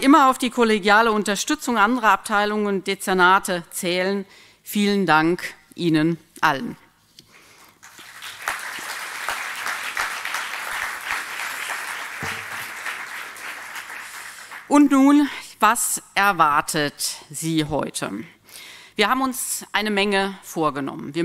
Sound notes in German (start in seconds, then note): 7.7 Applaus